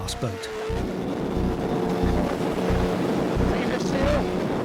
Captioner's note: boat engine buzzes